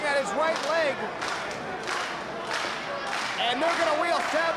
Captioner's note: spectators clapping rhythmically